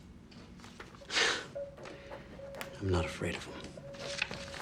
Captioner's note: scoffs